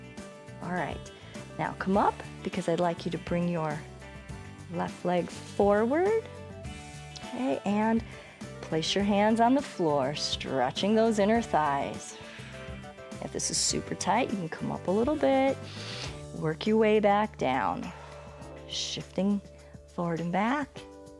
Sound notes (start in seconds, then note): 12.2 exhales